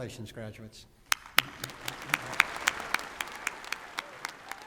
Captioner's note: applause